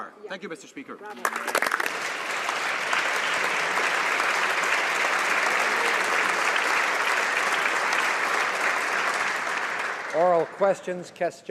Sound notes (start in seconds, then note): 4.2 applause